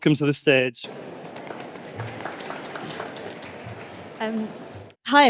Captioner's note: applause